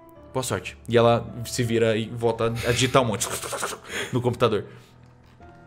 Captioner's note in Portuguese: barulho de digitação